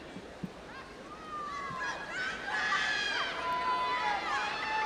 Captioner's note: audience yelling